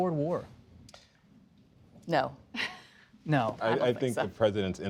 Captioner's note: laughs